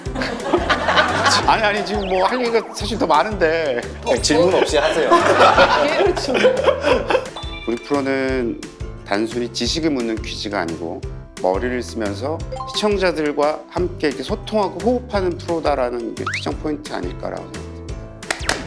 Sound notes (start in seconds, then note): 0.0 hahahahahaha; 3.8 hahahahahahahaha